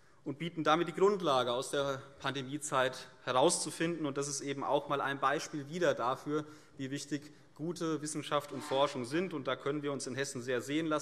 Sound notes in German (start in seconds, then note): none